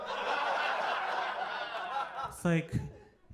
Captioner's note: audience laughing